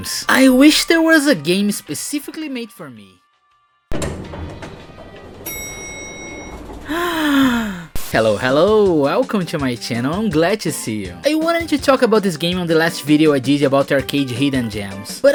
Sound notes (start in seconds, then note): 4.0 sound of elevator doors opening, then a DING!; 6.8 gasp